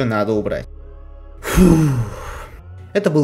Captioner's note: sigh